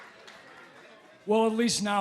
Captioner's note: crowd cheering